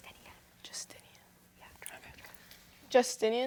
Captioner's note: whispering